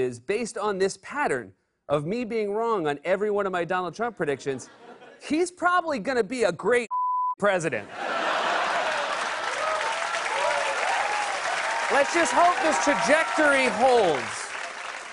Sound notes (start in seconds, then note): 7.9 laughter; 8.0 cheers and applause